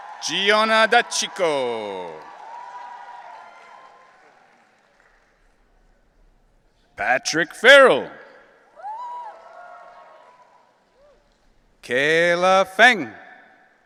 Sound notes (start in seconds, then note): 2.5 audience cheering; 8.7 audience cheering